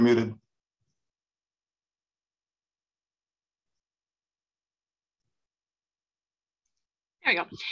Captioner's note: silence